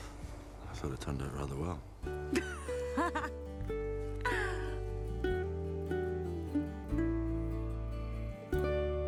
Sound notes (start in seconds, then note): 2.2 Kate laughs; 2.8 gentle music